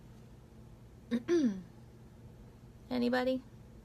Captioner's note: clears throat